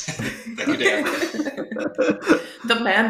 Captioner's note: laughter